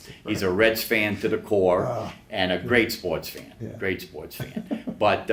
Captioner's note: laughs